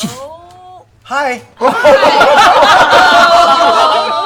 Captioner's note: laughter